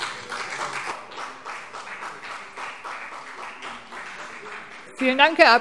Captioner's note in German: Beifall CDU